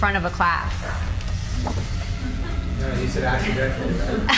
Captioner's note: cards flutter